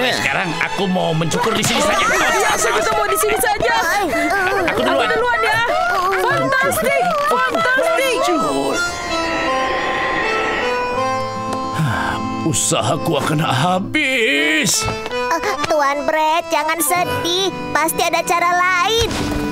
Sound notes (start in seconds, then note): 2.2 cheering; 5.9 grunts; 8.5 melancholic music; 9.0 grunts